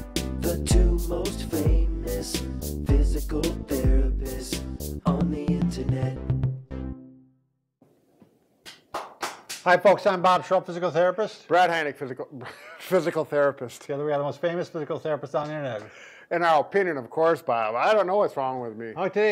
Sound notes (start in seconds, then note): 6.1 bright music; 8.6 clapping; 12.4 chuckles